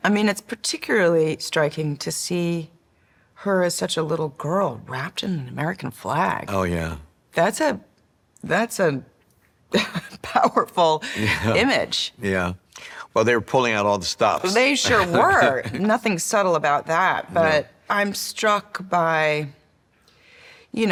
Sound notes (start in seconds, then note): 11.1 chuckling; 14.8 chuckles